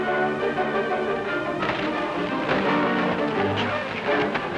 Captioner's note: water splashing